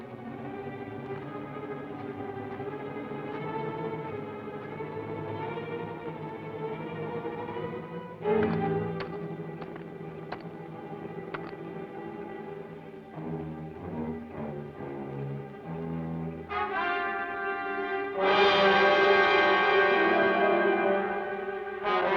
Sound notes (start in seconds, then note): 8.5 pickax clacks; 18.3 ominous orchestral music